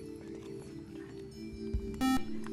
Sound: buzzer

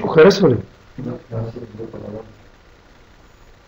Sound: commotion

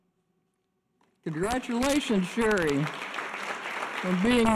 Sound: audience applause

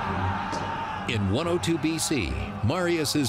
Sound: battle cry

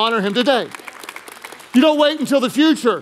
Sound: congregation applauding

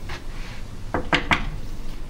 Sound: knocking on door

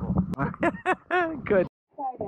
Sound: laughing

